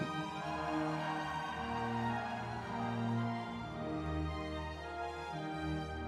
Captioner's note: audience cheering